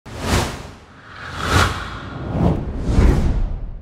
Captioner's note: title swooshing